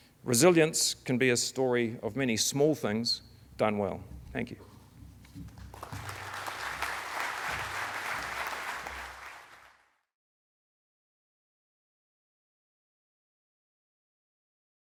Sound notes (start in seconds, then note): 5.5 audience applauding